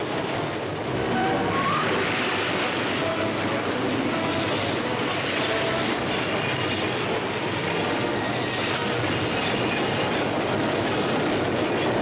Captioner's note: metal grinding